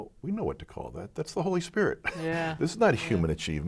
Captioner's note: laughs